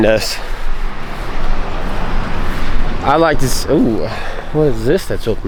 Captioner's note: water Rushing